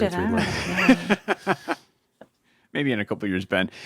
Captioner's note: laughs